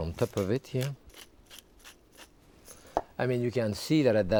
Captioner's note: pepper mill grinding